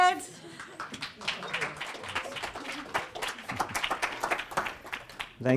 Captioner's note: applause